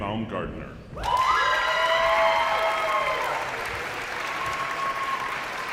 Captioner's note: audience applauds